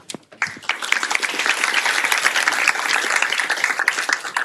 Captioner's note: applause